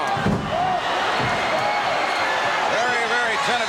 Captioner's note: audience cheering